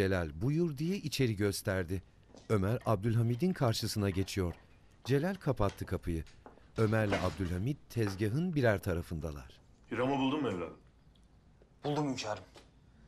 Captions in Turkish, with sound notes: (Kapı kapanma sesi) Hiram'ı buldun mu evladım? Buldum hünkârım.